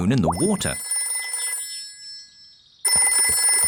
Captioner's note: phone ringing